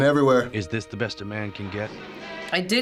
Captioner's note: voice-over